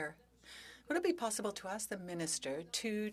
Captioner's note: speaking French